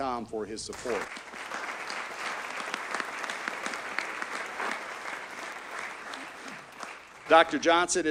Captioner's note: audience applauds